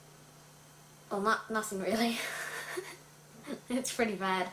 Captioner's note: laughs